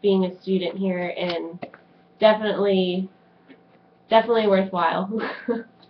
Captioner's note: laughs